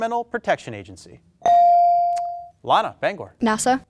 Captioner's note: bell dings